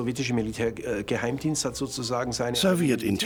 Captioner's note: speaking German